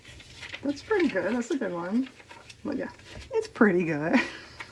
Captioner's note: laughs